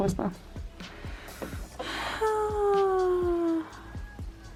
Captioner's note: siiiiiiiiiighhhhhhhhhhh